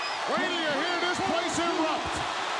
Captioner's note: audience cheering